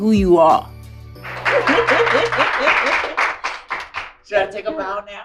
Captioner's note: audience applauds